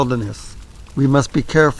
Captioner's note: fire crackling